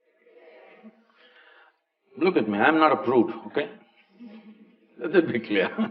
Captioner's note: few laugh; laughs